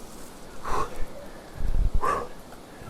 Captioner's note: stoke breathing heavily